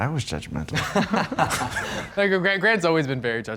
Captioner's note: laughing